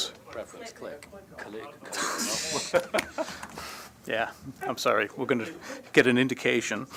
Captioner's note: laughter